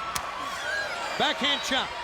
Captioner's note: audience cheering